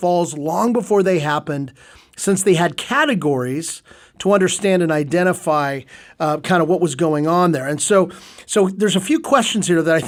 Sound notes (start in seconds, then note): none